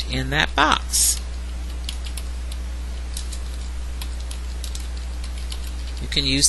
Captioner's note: typing